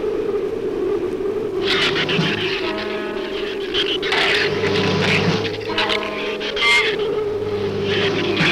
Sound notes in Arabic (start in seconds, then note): 1.6 ثرثرة شريرة; 1.6 موسيقى أوركسترالية مشؤومة